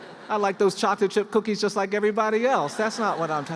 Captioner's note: laughter